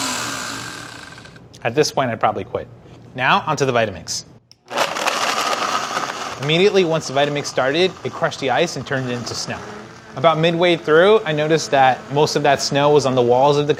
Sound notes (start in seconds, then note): 0.0 blender stopping; 4.8 blender whirring